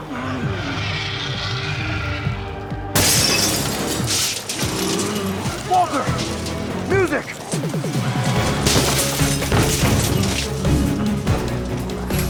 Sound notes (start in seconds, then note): 0.1 intense music continues; 2.9 glass shatters; 8.5 intense music continues